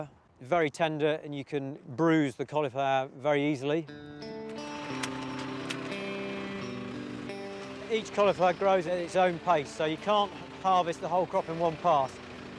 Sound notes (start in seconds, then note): 3.8 gentle upbeat music; 4.3 engine revving